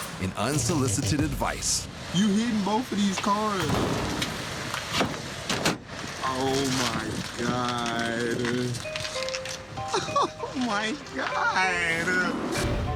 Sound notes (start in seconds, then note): 5.9 plastic crunching; 9.8 laughs